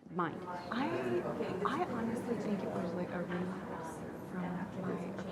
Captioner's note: audience mumbling